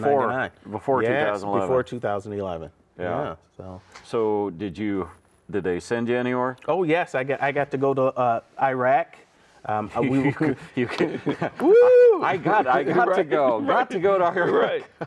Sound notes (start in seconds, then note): 10.2 chuckling